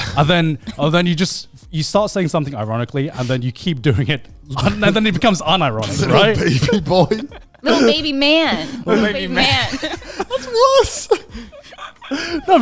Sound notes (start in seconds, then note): 6.3 laughing; 9.7 all laughing